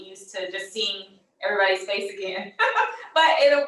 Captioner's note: laughs